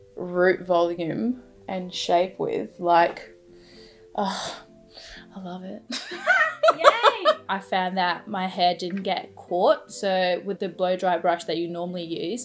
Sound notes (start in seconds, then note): 6.0 laughs